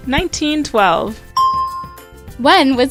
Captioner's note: bell rings